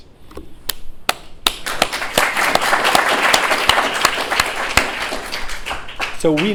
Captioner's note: applause